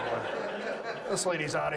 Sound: audience laughs

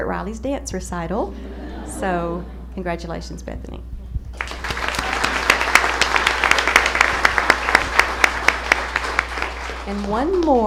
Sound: applause

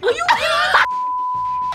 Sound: laughs; beeps

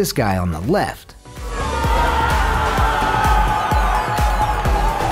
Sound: crowd cheers

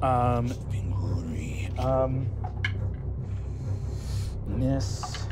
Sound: rolling dice

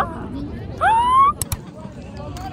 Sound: shouting

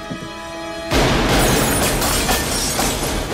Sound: gunshots

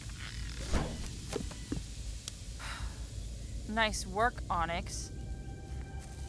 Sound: sighs

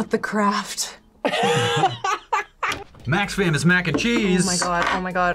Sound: laughs

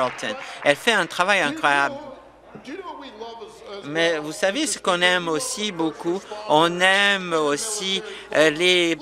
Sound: applause

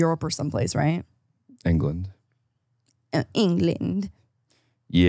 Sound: laughs

